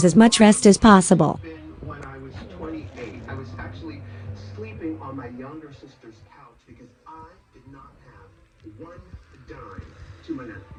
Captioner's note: TV continues playing